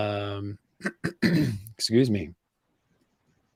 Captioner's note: clears throat